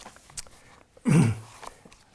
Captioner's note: clears throat